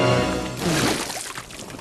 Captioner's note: splat